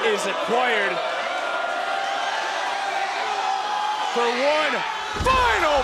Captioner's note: crowd cheering